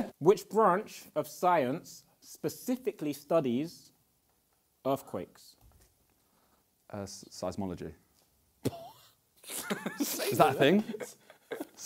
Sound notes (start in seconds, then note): 9.4 laughs